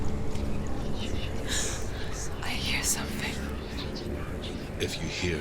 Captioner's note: gasp